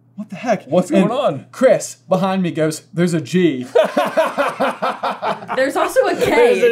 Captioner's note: laughter